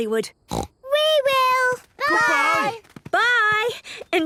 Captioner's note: snort